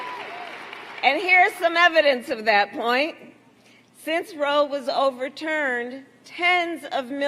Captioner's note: applause